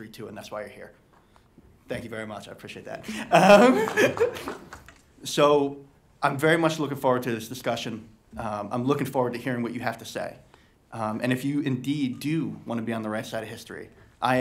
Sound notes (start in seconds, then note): 3.0 laughing